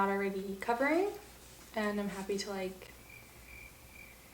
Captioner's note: crickets sound